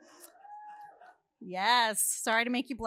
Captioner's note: audience softly cheering